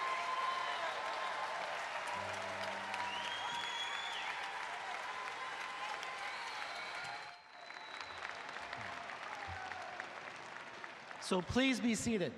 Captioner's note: applause